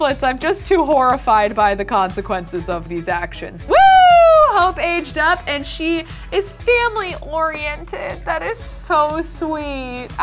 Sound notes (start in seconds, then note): 3.6 girl cheers